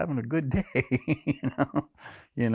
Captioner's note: laughter